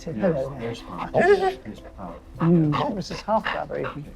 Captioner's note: Henry pants